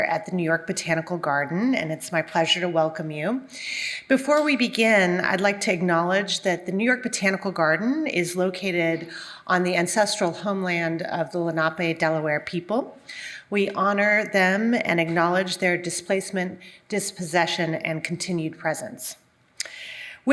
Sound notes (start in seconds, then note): none